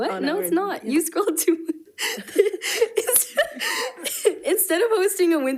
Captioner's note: laughs